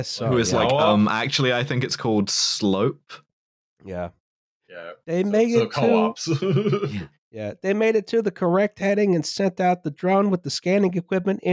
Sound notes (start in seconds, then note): 5.5 laughs